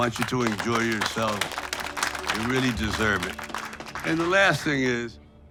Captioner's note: everyone applauds